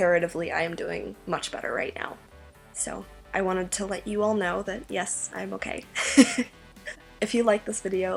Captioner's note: laughs